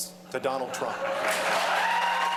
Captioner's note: cheering and applause